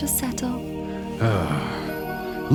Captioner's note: sighs dejectedly